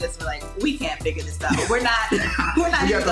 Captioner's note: laughing